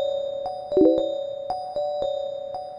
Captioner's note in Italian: suoni di notifiche